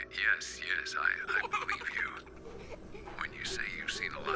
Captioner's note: girl laughs